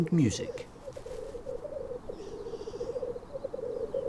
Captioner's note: grouse cooing